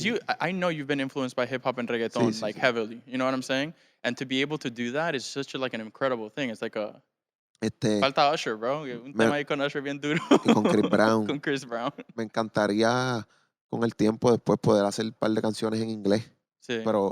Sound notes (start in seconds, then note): 10.1 laughing